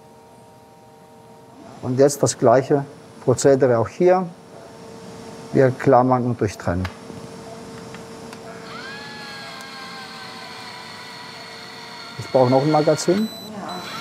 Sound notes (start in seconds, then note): 0.0 quiet machine whirring; 7.8 machine whirring